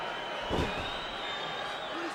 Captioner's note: body thuds